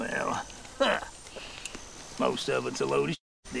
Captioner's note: scoffs